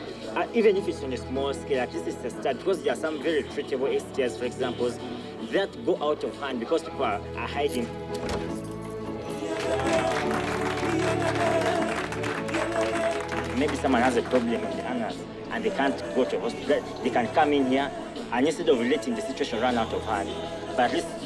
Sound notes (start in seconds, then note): 9.2 applause